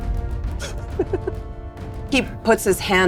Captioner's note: players laughing